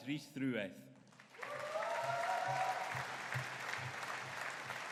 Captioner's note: audience cheering